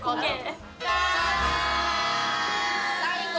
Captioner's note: cheers